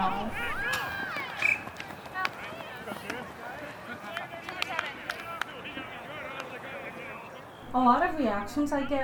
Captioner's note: sports activity, clapping, birds chirping, voices